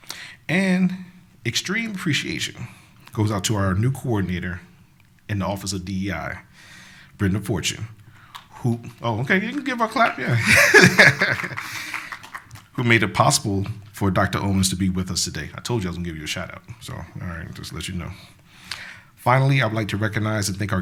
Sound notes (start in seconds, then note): 10.2 laughs; 11.1 applause